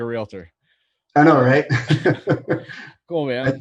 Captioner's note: laughs